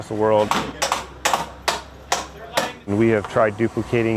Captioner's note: hammer slamming against nails